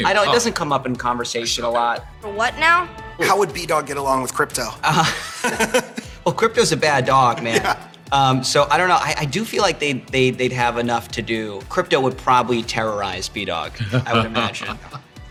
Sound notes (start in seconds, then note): 7.1 laughs